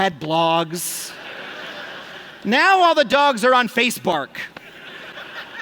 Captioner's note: laughter; laughter and groans